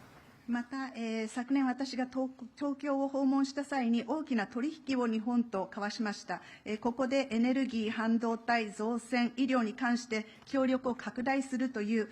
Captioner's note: speaking Japanese